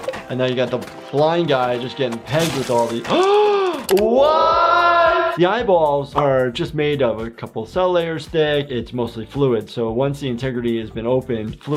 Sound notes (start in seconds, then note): 3.3 gasps